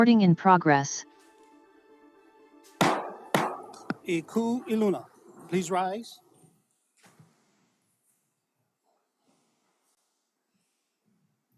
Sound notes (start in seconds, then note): 2.8 gavel bangs twice